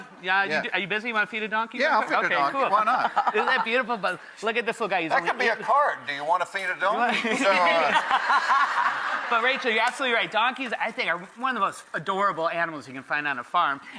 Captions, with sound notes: Are you busy, wanna feed a donkey? Yeah, I'll feed a donkey. Okay, cool. Why not? Isn't that beautiful? But look at this little guy, he gonna-- That could be a card. Do you wanna feed a donkey? (laughter) But Rachael, you're absolutely right, donkeys I think are one of the most adorable animals you can find on a farm,